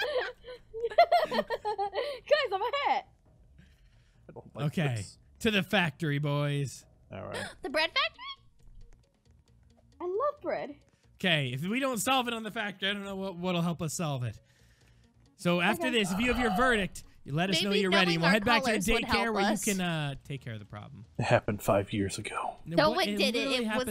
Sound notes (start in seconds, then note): 0.0 laughing; 8.6 gasps